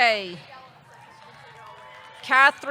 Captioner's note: audience clapping; audience cheering